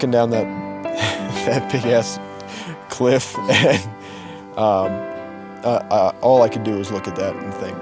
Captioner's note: chuckles